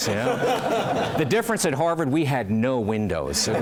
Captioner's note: laugh